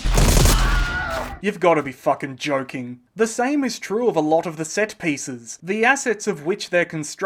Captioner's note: Wilhelm scream